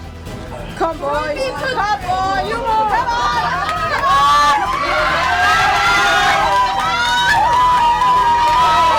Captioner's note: crowd cheering intensifying; loud cheering